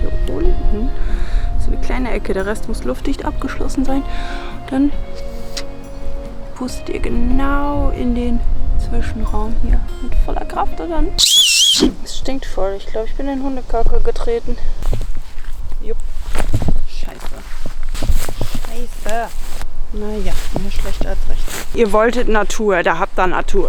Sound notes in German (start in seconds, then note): 11.2 lautes Pfeifen